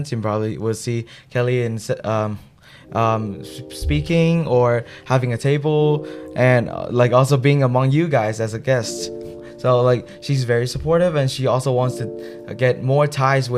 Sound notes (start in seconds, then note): none